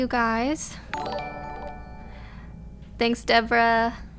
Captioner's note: notification tingling